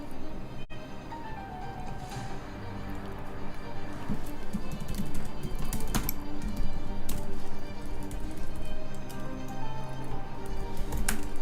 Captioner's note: thumping sound